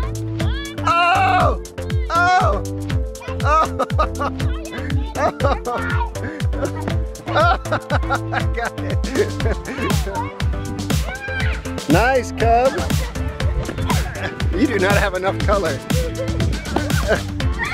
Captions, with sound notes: (Male instructor shouting) (Male instructor laughs) - Nice cub! You do not have enough color.